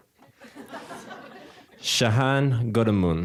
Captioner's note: audience laughing